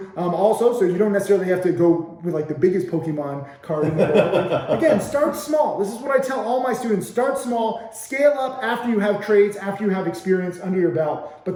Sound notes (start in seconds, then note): 3.8 laughing